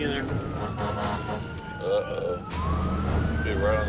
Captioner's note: horn honking